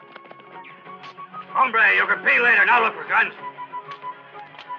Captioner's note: speaking spanish